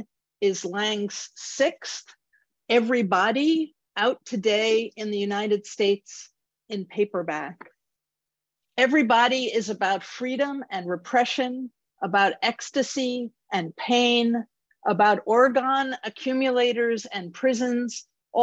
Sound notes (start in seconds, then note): none